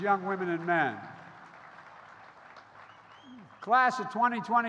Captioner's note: applause